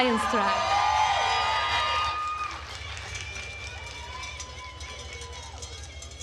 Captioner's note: attendees cheering and applauding